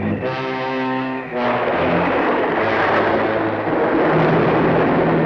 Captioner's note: thunder crashes